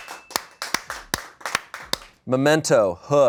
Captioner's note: bell dings; audience applauding